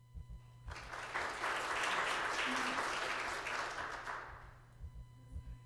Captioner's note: applause